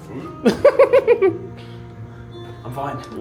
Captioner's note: soft acoustic music plays; giggles